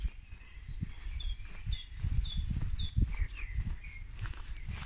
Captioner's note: birdsong